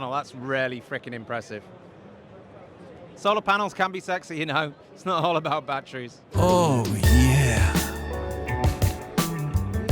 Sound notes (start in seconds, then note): 6.6 voiceover